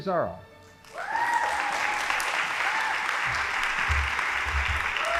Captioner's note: audience applauding